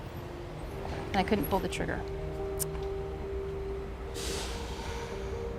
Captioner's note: tongue clicks